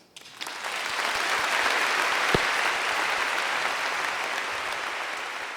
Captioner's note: audience applauding